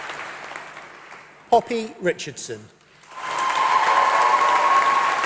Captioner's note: applause